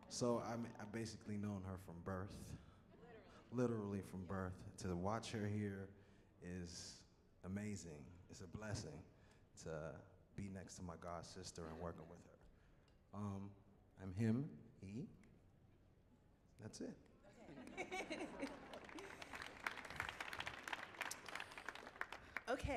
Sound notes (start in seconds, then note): 17.3 laughs; 19.6 audience clapping